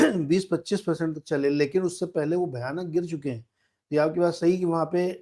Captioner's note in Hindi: गला साफ़ करने की आवाज़